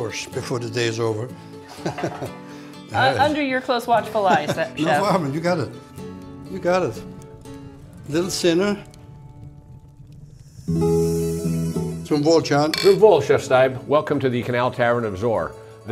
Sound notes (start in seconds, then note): 1.7 chuckles; 10.2 fire crackling